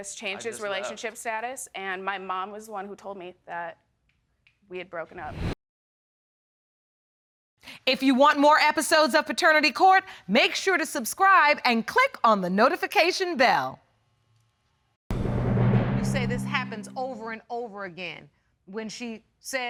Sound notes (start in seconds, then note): none